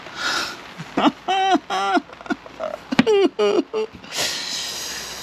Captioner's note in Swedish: Vuxen man låtsasgråter